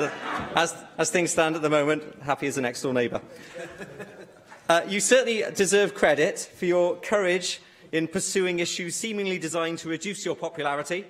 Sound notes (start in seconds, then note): 3.3 laughter